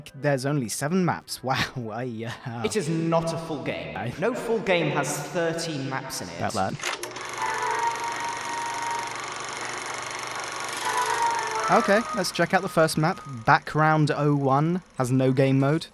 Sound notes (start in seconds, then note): 2.8 echoed